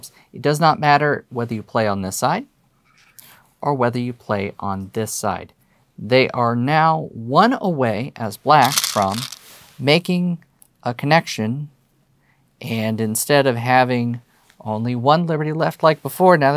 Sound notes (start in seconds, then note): 8.6 stones rattling